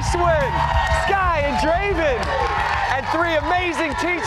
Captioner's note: cheers and applause